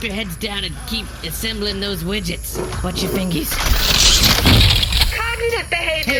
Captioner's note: machinery clangs